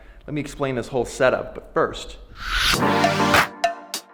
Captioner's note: whooshing; upbeat music